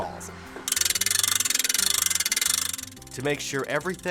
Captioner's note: crank clicks